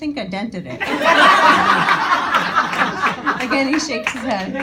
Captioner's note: audience laughing